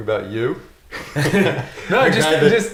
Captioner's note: laughing